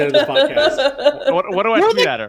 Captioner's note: laughing